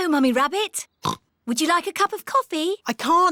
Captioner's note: oinks